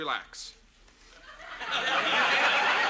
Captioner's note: audience laughs